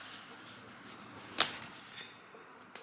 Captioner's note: snapping sound